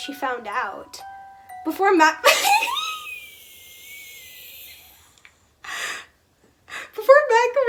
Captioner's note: gay wheeze